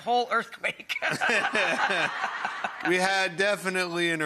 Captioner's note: Rachael, Buddy and audience laughing